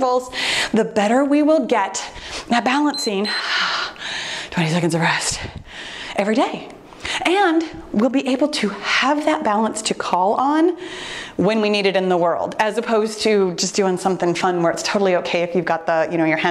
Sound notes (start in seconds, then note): 2.8 timer beeps